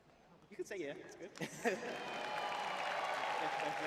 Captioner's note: laughs